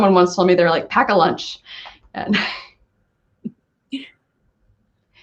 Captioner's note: laughing